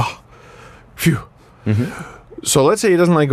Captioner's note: relieved sound